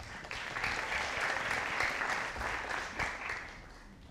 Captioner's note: audience applauding